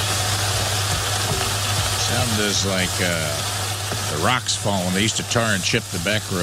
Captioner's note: sizzling